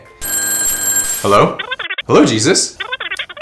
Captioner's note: telephone ringing; Jesus chirping